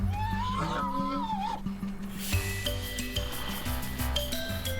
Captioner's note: donkey braying